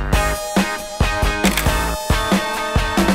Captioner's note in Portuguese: som de flash